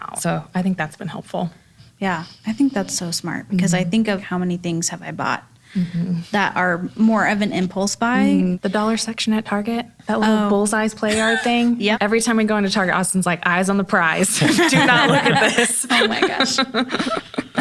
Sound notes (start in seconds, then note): 14.3 laughs